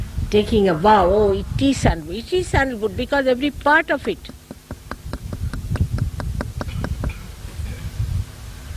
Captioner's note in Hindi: माइक्रोफोन रुक जाता है